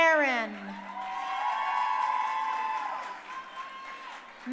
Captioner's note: crowd cheering